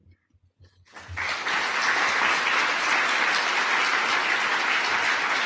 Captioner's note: audience applause